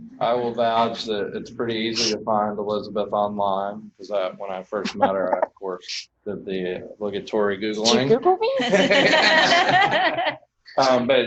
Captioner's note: laughter